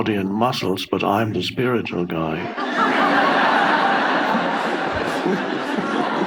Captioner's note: audience laughing